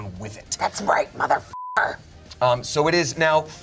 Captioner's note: beep